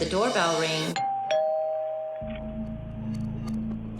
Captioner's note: doorbell rings